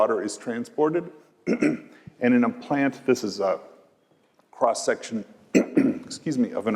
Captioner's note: cough